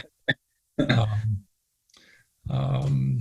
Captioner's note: laughs